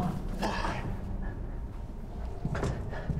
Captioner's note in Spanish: Tosiendo